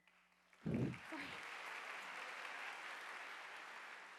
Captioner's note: audience applauding